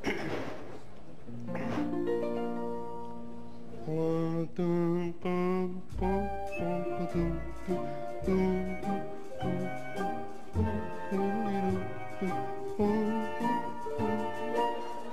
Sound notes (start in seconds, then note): 0.0 clears throat; 8.8 humming